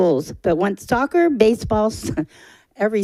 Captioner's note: chuckling